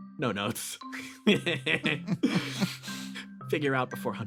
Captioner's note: laughs